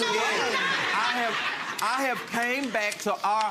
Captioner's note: audience laughing